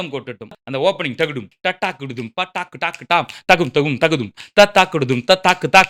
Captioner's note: vocalizing drum beats; vocalizing rhythmic drum patterns